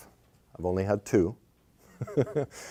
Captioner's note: chuckles